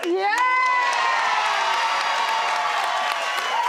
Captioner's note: cheering